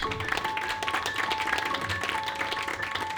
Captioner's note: crowd clapping